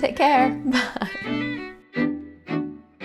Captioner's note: laughs